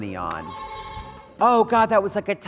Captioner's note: buzzer ringing